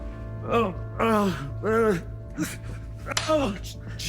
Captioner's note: Jason grunting; hand smacks